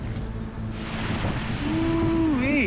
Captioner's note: thunder booming